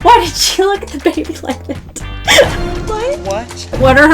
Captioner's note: laughs